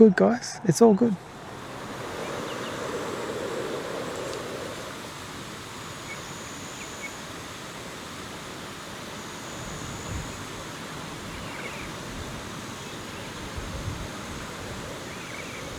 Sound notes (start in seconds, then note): 1.5 wind noise and birds chirping